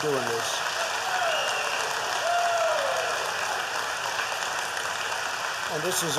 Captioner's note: applause